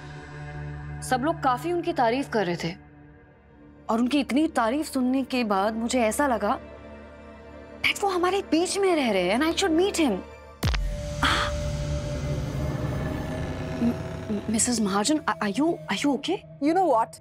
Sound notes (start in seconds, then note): 11.2 grunts